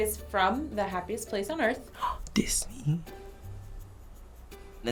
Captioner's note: gasps